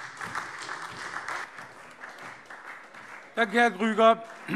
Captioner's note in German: Beifall SPD